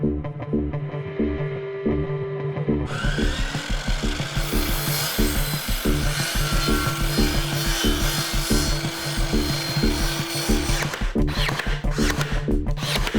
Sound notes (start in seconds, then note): 2.9 machine grunting